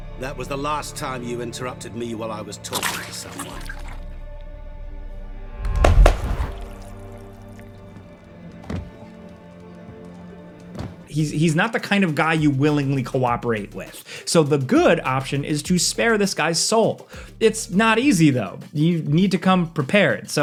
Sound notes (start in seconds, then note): 5.8 hands clap; 7.1 mournful music